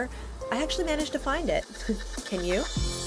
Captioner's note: chuckling